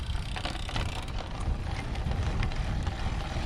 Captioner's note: spokes ticking; pedaling hum